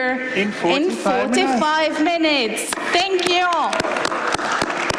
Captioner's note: applause